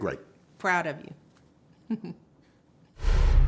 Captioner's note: chuckles